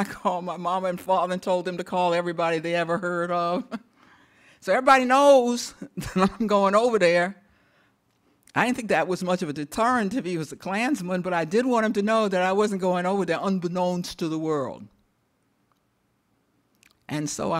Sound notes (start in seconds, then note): 3.5 chuckles; 6.3 chuckles